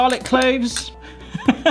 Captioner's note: spoon clattering; laughs